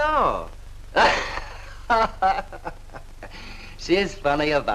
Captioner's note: Johnny Laughing